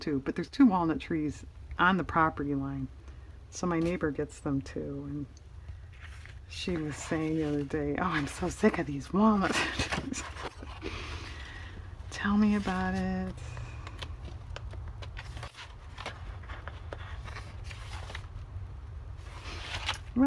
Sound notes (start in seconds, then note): 13.9 laughs